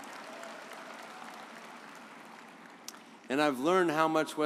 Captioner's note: audience applauds